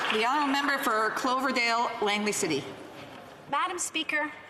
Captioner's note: some Applause